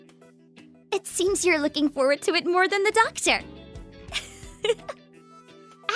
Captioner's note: giggle